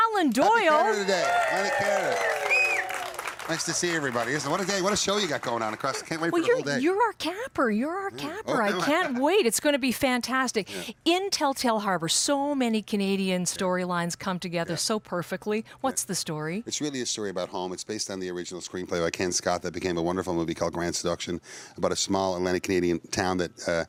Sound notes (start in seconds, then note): 5.4 cheering and applause